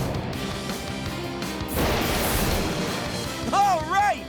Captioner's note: thundering